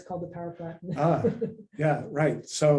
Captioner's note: laughs